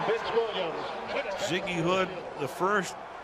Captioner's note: pa announcement